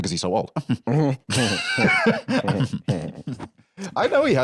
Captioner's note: both Ben Shapiro-style chuckling